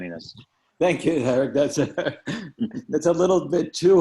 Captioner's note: laughing